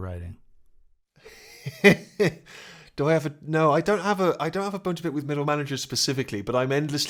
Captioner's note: laughter